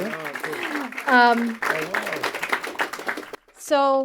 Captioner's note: audience applauds